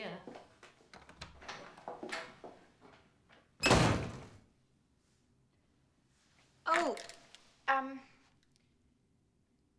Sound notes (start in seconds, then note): 3.6 door slams